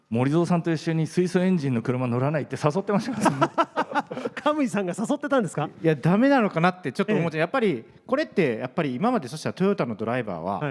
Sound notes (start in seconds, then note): 2.9 laughs